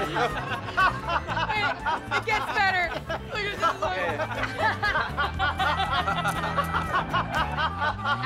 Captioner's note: laughter